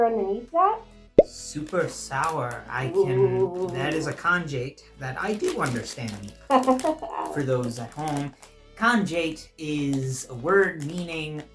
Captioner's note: laughing